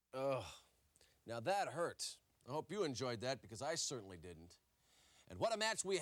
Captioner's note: none